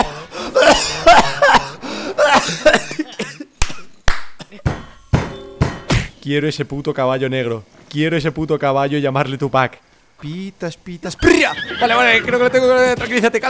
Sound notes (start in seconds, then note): 3.1 claps and bangs table